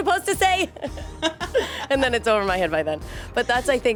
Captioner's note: laughs